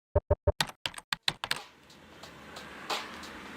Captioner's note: keyboard clicks; upbeat music